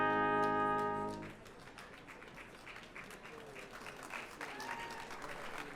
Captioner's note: audience applauding